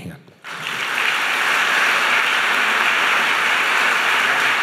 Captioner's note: audience applauding